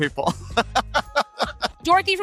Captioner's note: laughs